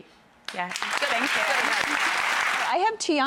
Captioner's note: applause